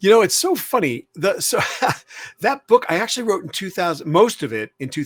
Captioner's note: laughs